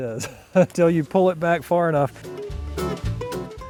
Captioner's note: laughing